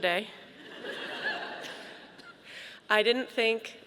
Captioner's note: audience laughing